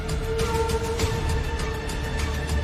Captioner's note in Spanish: hm♪♪♪hm